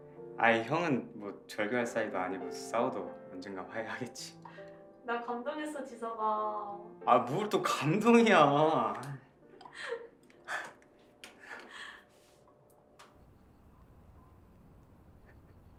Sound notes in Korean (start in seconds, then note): 9.6 진희 웃음 소리